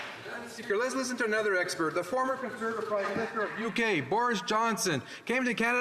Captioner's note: some Applause